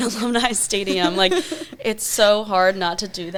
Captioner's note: laughs